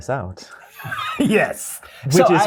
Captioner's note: laughter